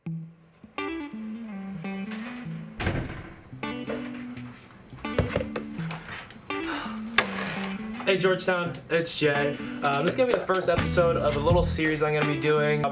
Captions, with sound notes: (mellow music) (keys clinking) - Hey, Georgetown, it's Jay. This is gonna be the first episode of a little series I'm gonna be doing.